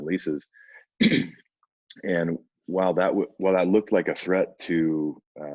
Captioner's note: throat clearing